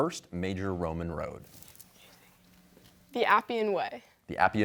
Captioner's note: whispering